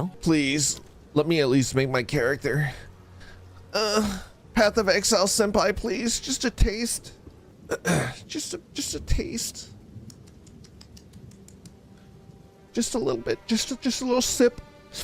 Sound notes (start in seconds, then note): 7.7 clears throat; 10.0 smacking lips